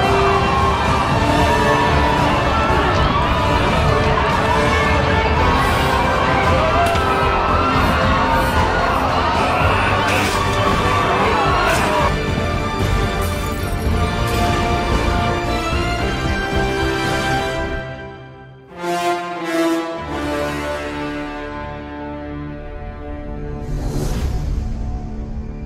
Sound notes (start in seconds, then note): 0.2 crowd Screams; 9.6 crowd Scream Intensifies